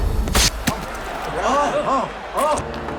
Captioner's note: gasping